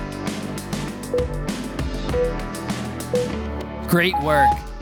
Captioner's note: timer beeping